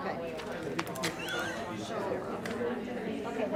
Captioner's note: laughing